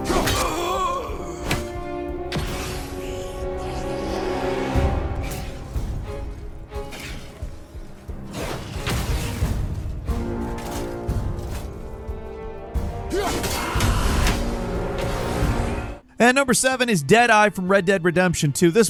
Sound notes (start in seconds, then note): 0.1 enemy moaning; 1.4 ax clanking; 4.0 tense dramatic music; 13.1 Kratos grunting; 14.0 enemy screeching